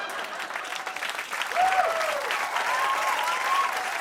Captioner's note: laughter; cheers and applause